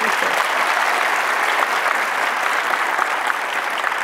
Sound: audience applauds

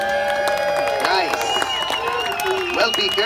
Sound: audience claps

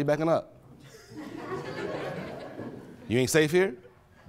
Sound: attendees laughing

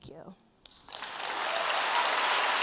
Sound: applause

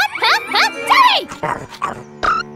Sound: snarls

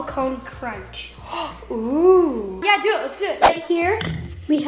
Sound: gasps

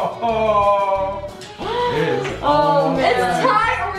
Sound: laughing

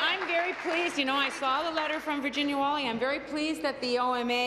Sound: applause

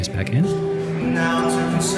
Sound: loud crowd noise; singing

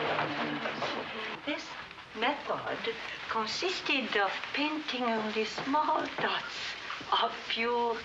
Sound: women pleasantly conversing

